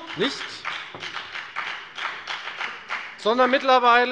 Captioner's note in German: Beifall bei der FDP